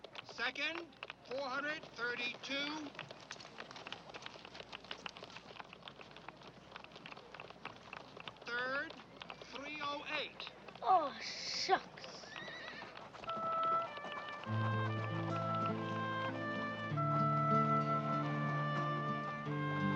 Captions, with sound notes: Second, 432. (audience applauding) Third, 308. - Oh, shucks! (warm melancholic music)